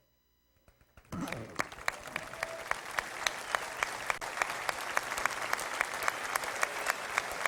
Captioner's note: applause